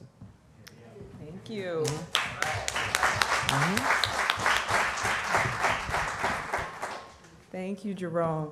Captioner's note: applause